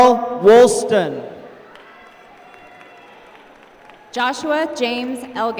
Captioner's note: applause